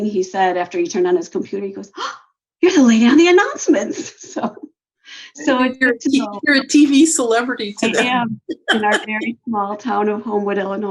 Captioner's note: laughs